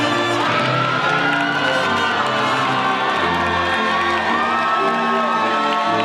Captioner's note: audience cheering and applauding